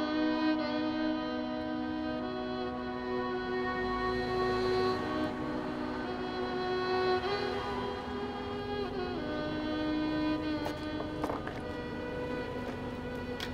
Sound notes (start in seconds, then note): 4.2 vehicle engine revs; 10.4 solemn music continues